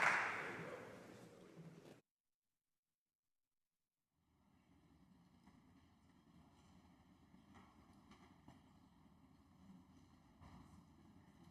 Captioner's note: applause